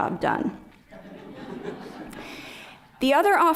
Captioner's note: laughter